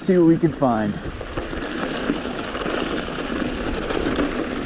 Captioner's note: tires rumbling